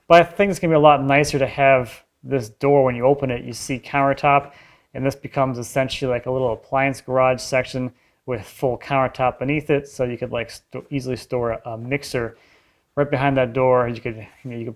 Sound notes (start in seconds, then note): none